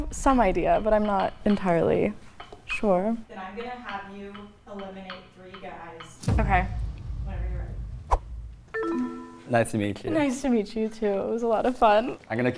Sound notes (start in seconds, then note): 9.1 buzzer dinging